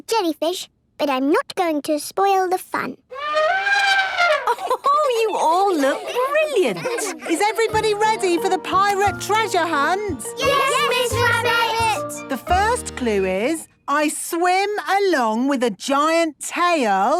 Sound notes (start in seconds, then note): 3.1 trumpeting; 4.2 Mummy Pig laughing